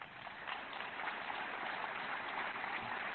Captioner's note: applause